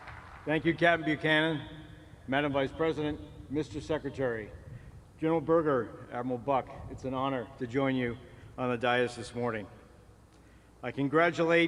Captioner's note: applause